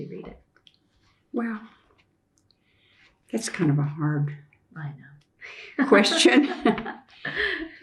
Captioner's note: laughter